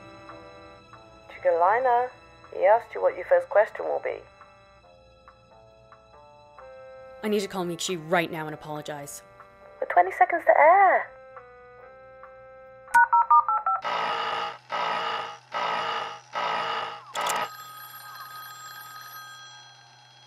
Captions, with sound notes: Chickelyna? He asked you what your first question will be. I need to call Miikshi right now and apologize. We're 20 seconds to air! [phone speed-dialing] [alarm] [phone ringing]